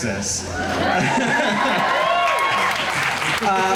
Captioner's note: crowd applause